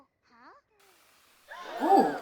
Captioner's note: gasp sound effect